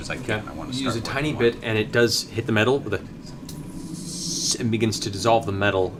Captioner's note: sizzle